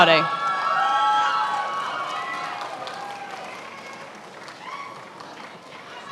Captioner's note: attendees applauding and cheering